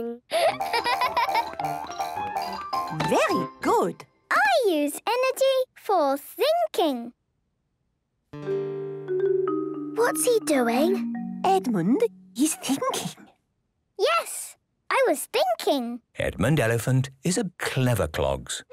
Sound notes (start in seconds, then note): 7.8 whispering